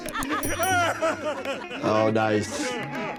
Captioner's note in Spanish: música misteriosa; todos ríen; suena la campana